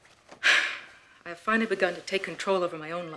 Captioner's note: sighs